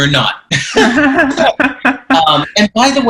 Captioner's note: both laughing